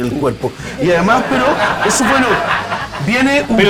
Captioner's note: laughs